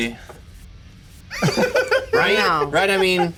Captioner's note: laughs